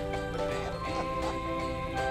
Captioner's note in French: rires